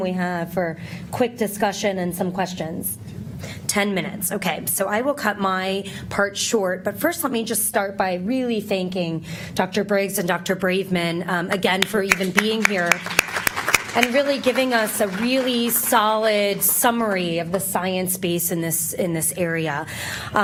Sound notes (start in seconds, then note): 11.5 applause